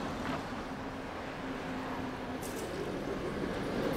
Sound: city traffic roar

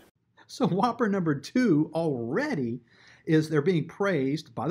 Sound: chuckles

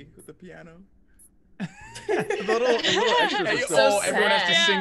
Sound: laugh

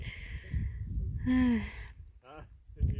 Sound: sighs

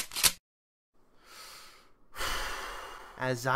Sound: Oodle takes a deep breath

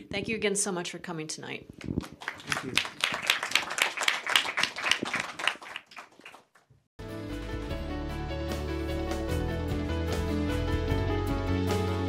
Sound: applause

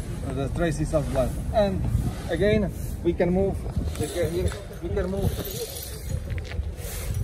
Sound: sound of sweeping

